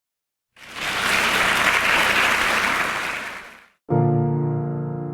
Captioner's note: audience applauding; bright gentle music